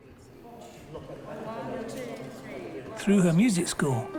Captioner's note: people chattering